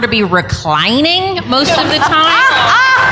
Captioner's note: laughter